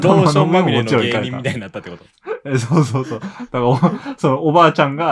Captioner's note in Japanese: 笑い